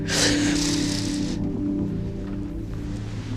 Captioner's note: sighing